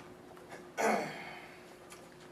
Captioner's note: Cave clears his throat